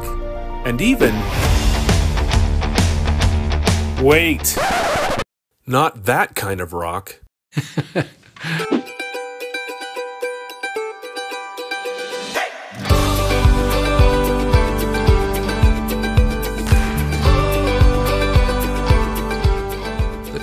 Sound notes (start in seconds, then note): 1.5 heavy rock guitar; 4.5 record stop; 7.6 laughs; 9.7 upbeat acoustic guitar